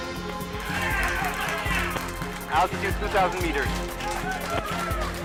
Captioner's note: tense music intensifies; cheering